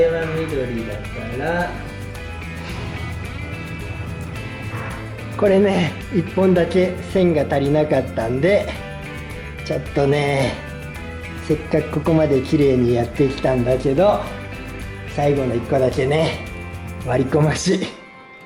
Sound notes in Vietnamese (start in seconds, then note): 12.6 cười